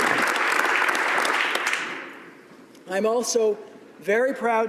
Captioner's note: applause